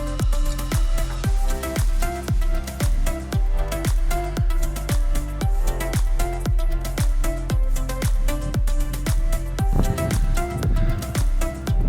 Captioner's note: wind noises